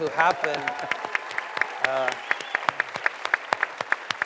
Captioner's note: cheering and applause